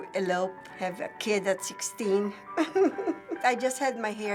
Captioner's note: chuckles